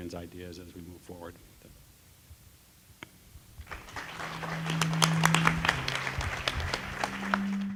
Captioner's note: applause